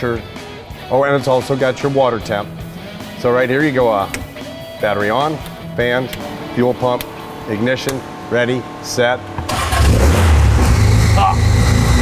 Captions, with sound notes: and it's also got your water temp So, right here you go... Battery on, fans, fuel pump Ignition. Ready. Set... [engine starts] Ha!